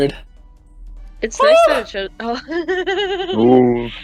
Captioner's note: the screams